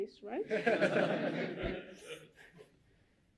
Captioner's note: laughter